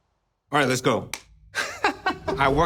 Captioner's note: laughs